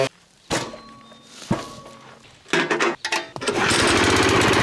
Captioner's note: clanking; motor roaring